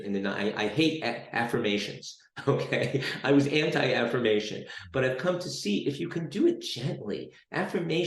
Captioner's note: chuckles